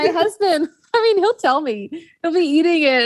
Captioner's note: laughs